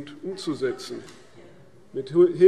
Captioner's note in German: Zuruf